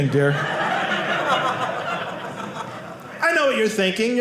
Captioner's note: audience laughing